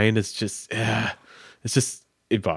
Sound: sighing

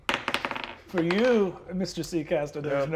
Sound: die tapping table

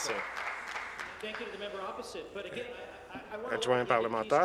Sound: applause

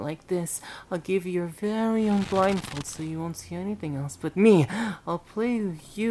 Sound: fabric stretching

